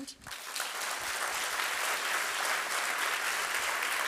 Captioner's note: audience applauding